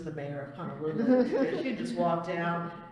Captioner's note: laughter